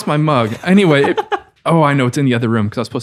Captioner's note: laughs